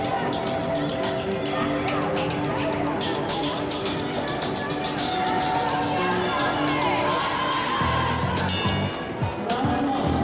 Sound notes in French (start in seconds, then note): 6.0 Foule; 8.4 cloche sonne